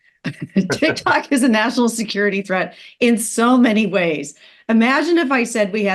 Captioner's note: laugh